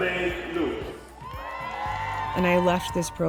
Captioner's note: cheering